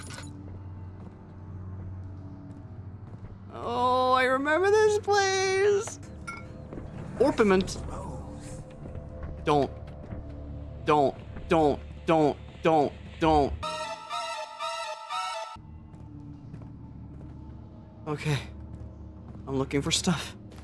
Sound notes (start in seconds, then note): 7.8 distant voice